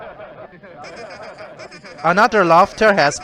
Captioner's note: another Laughter Starts